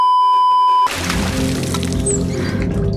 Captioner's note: water splash